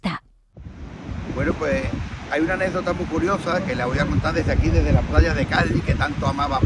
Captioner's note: interviewee speaking in Spanish